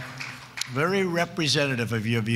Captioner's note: cheers and applause